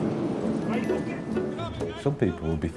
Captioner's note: boat droning; droning whooshing drowns out speaker